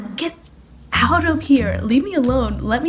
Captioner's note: none